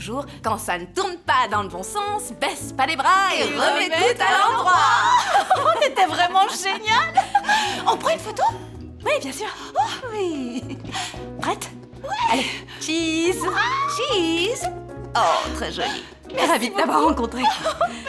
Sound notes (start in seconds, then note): 4.2 laughing; 14.3 shutter clicks